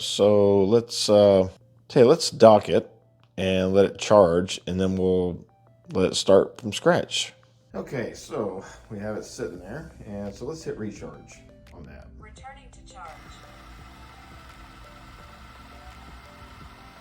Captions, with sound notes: So let's, okay, let's dock it and let it charge, and then we'll let it start from scratch. Okay, so we have it sitting there, and so let's hit recharge on that. - [Vacuum] Returning to charge. (vacuum whirring)